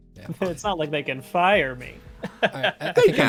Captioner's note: laughs